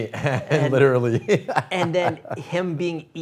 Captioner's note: laughs